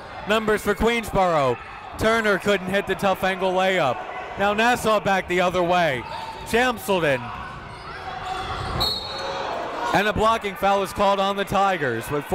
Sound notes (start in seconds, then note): 8.8 whistle blows